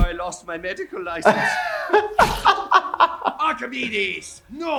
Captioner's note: laughing